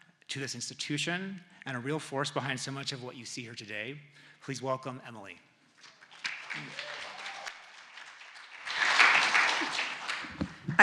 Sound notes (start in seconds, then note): 5.8 audience applauding